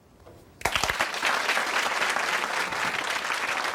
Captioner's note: crowd clapping